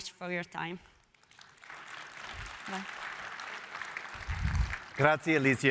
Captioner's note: applause